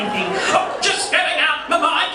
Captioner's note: mimics elderly person's voice